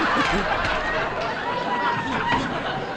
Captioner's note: audience Laughing